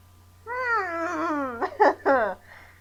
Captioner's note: awkward laughter